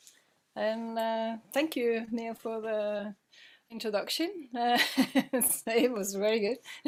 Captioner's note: laughing